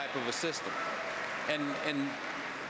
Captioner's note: applause